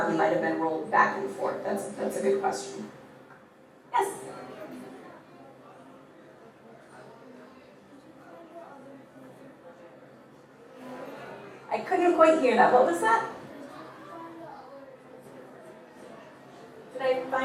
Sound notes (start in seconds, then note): 3.9 audience mumbling; 14.5 boy mumbles